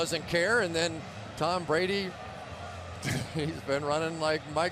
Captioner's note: laughs